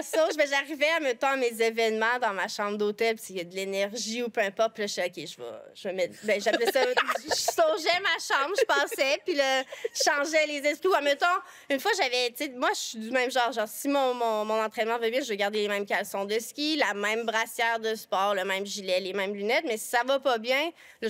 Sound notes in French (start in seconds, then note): 6.2 rires